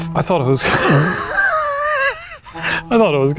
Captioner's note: chuckles